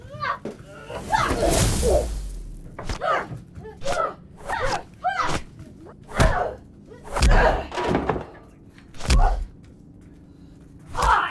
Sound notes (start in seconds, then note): 0.8 zapping; 4.0 grunting; 4.0 smacking